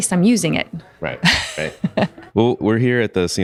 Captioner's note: laughs